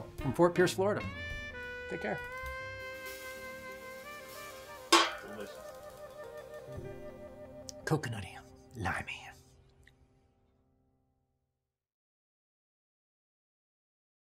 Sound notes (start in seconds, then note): 4.9 glass clinks